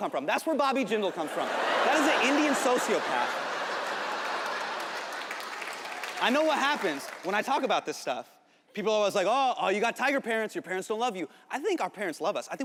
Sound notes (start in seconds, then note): 3.4 audience laughing; 5.7 audience clapping